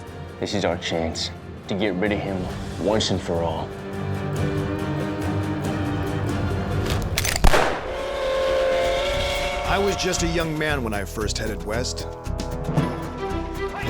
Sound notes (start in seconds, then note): 7.3 gunshot; 7.8 train whistle